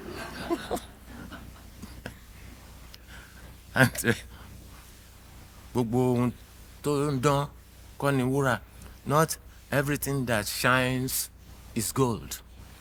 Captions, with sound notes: (alll laughing) (speaking in foreign language) not everything that shines is gold.